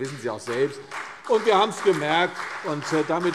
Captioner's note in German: Beifall CDU und BÜNDNIS 90/DIE GRÜNEN